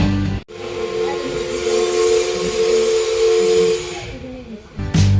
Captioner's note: whistle